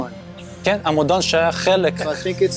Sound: speaking Hebrew

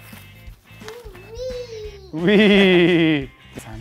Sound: squealing sound; laughing

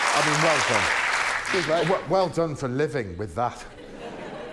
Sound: applause

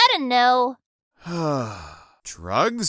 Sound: sigh

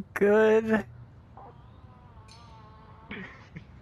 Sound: distant farting; laughing

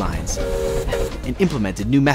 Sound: whistle whistling

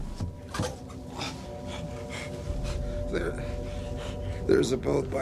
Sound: panting

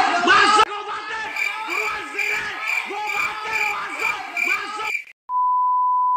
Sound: criket sound

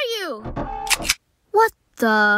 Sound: mechanical Noises; gun Cock

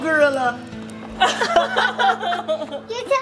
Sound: laughter

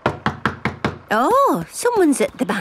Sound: knocking at door

